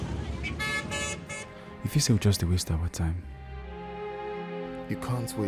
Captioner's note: calm music; car horn honking